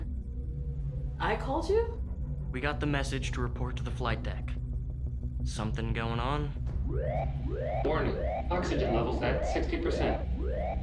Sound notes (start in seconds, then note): 0.3 ominous music; 6.6 alarm blaring